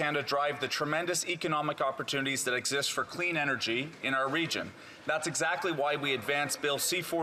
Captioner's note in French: voix de l'interprète